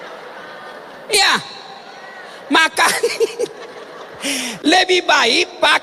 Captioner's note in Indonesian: tertawa